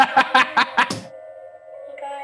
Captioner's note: Ryan laughing